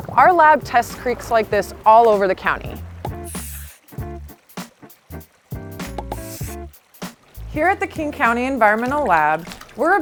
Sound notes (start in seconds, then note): 4.6 bubbles popping; 4.6 jazzy music